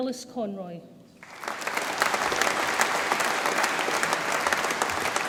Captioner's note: audience applauds